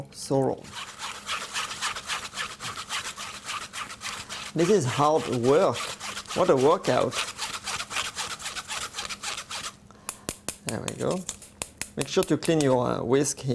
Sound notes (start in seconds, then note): 0.7 whisking sounds